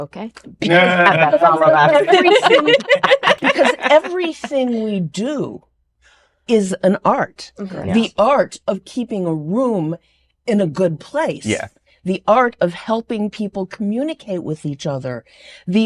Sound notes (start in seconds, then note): 0.6 laughter